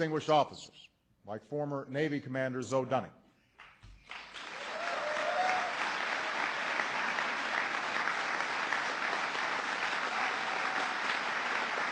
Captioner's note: applause